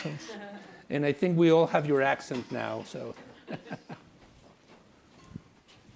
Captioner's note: class laughs; chuckles